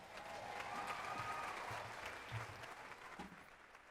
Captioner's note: audience applauds